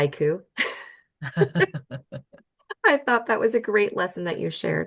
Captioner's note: laugh